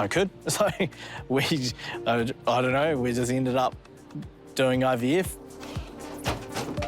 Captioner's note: laughs